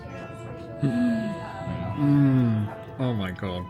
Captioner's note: gasps